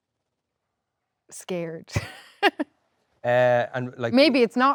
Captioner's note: laughs